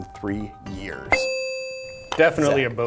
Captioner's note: ding